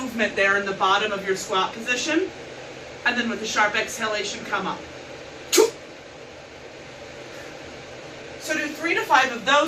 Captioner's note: sharp exhalation